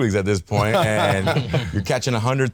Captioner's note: all laughing